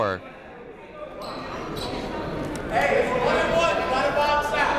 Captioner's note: people shouting in the crowd